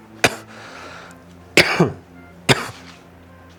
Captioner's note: coughs